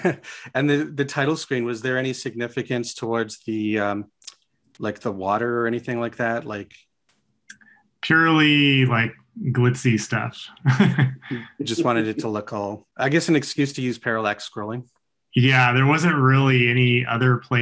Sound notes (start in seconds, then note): 9.9 chuckles